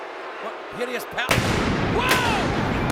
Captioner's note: pyro bangs